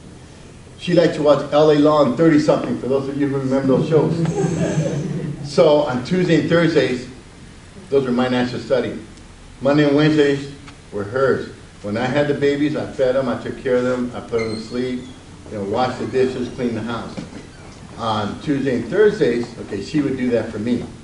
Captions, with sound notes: She liked to watch L.A. Law and Thirtysomething for those of you who remember those shows. (audience laughs) So on Tuesday and Thursdays, those were my nights to study. Monday and Wednesdays were hers. When I had the babies, I fed 'em, I took care of 'em, I put 'em to sleep, then washed the dishes, cleaned the house. On Tuesday and Thursdays, okay, she would do that for me.